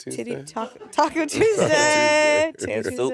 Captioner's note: crew laughing